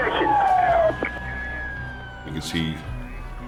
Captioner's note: sirens wailing